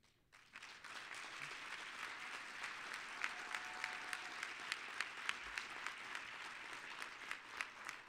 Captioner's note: applause